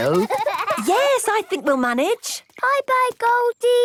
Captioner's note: giggling